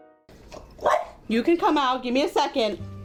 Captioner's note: dog barking